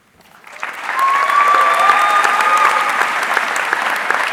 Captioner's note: audience cheering